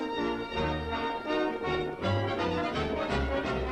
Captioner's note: horses trotting